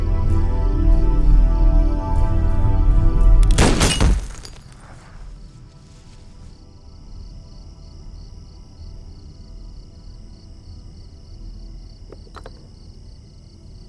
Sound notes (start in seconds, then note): 3.4 glass shatters; 3.4 gunshot